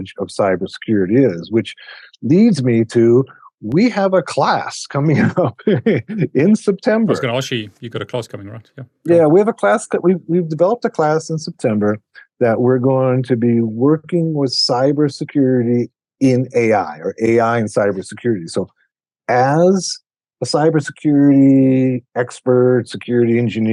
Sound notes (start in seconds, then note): 7.1 laughs